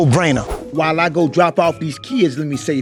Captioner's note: air whooshing